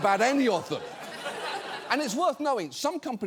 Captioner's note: audience laughs